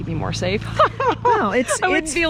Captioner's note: laughs